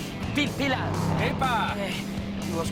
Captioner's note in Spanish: Ruido de un vehículo